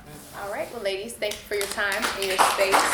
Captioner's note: audience applauds